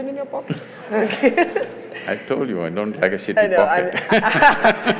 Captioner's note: Sadhguru laughs; laughs; laughs; laughter